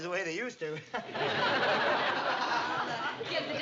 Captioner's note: laughs